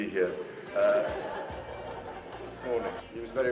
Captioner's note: audience laughing